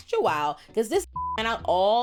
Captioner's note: beep